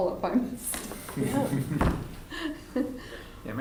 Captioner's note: laughter